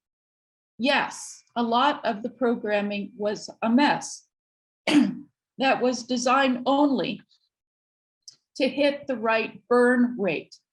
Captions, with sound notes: Yes, a lot of the programming was a mess (clears throat) that was designed only to hit the right burn rate